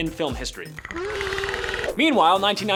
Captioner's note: monster groan